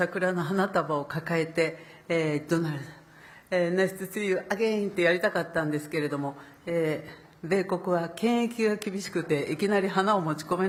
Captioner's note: speaking Japanese